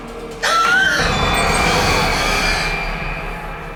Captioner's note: gasping